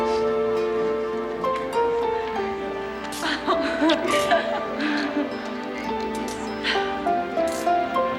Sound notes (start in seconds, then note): 3.2 all crying